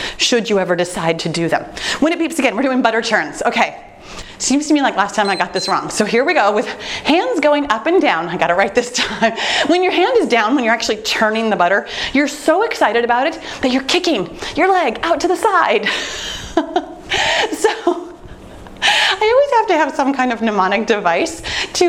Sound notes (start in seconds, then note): 5.2 timer beeps; 17.2 laughing